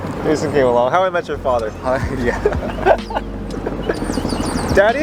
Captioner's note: laughs